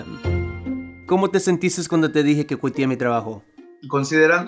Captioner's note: speaking Spanish